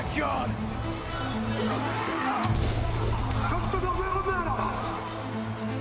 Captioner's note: crowd noise